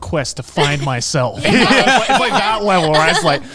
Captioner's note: everyone laughing